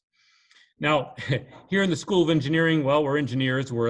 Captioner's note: chuckles